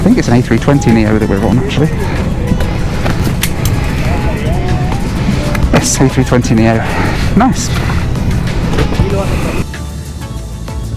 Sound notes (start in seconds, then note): 2.9 seatbelt clicks